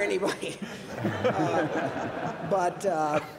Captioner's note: audience laughs